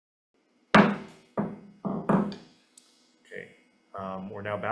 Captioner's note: gavel bangs